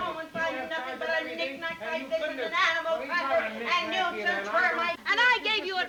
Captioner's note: Ollie and Mrs. Hardy chattering